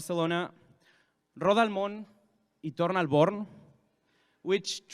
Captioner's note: speaking in foreign language